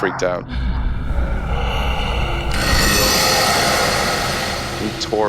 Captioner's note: eerie sounds